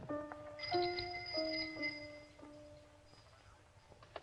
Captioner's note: bell ringing